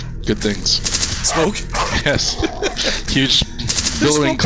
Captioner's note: laughing